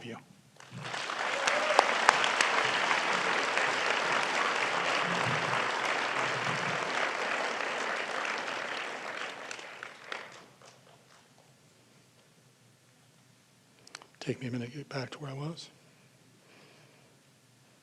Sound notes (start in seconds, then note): 2.9 applause